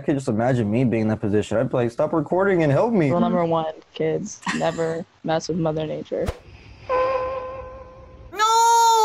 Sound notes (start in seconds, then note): 6.9 horn honks